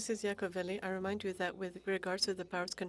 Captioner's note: speaking FRENCH